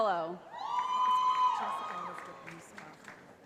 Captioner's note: cheering